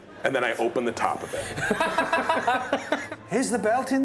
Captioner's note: laughter